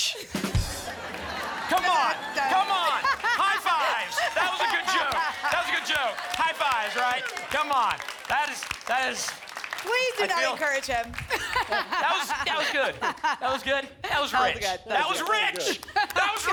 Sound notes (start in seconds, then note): 0.5 laughter